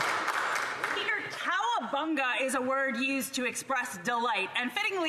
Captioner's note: applause